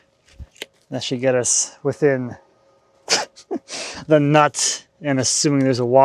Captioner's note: laughs